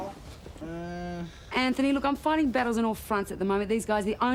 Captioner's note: groans